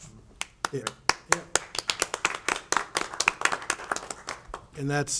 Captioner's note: members clap